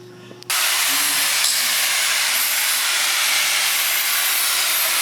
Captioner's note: grinder grinding